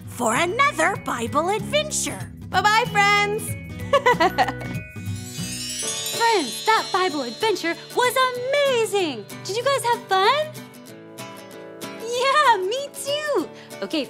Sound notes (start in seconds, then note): 3.8 laughter; 4.4 soft music